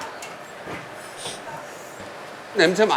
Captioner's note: sniff